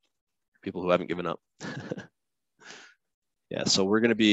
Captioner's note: chuckles